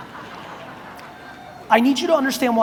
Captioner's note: audience laughs